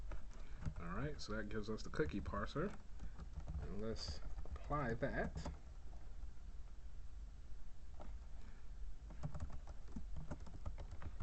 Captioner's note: typing sounds